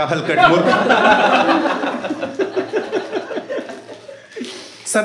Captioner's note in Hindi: हँसना